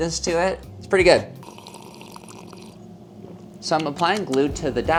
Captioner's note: slurping